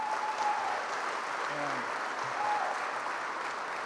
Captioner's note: applause